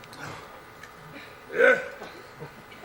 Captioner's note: offering grunt